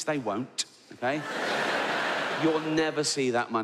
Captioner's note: audience laughs